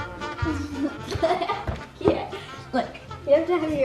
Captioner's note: jazzy music; laughing